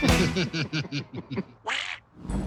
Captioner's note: laughing; quack